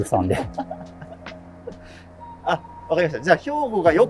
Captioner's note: laughing